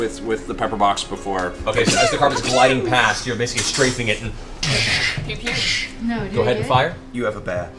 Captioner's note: gunshots